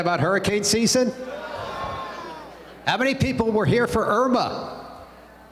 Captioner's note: crowd response